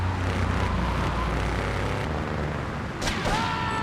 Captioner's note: sirens wailing; sirens wailing